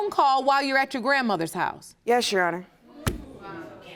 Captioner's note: audience murmuring